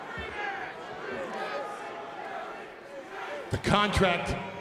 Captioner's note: crowd murmuring